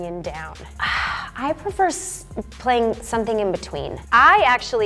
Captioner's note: sighs